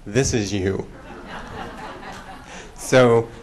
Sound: laughter

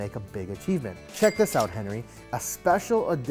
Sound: cash register dings

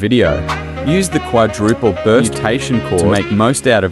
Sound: quadruple burst

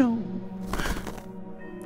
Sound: flutter

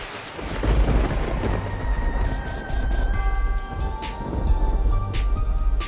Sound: thunder booms

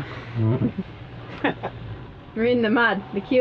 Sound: laughing

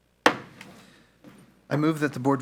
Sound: gavel knocks

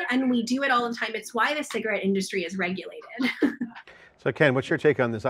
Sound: laughs

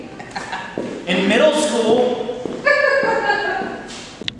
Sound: CHIEF chuckles

